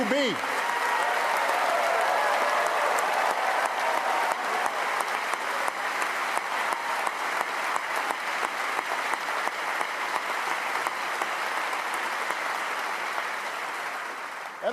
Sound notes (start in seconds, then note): 0.0 cheers & applause